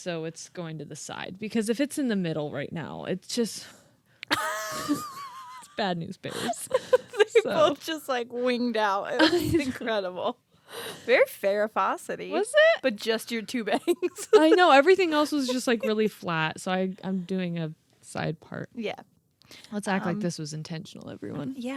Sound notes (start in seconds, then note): 4.4 laughing